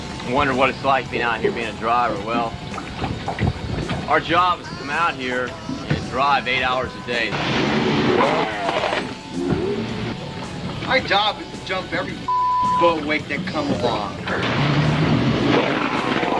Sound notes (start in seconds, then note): 7.4 motor revving; 14.3 motor revving